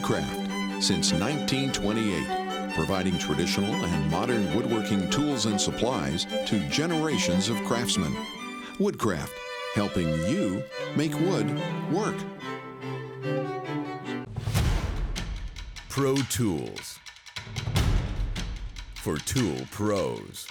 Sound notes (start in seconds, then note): 12.5 classical music; 14.4 air whooshes